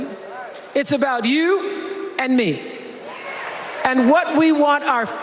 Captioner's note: cheers and applause